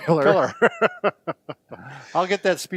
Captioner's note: laughter